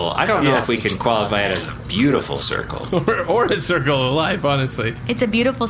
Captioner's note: laughing